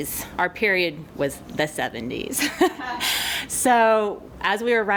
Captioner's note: laughs